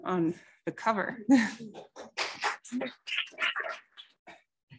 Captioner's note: applause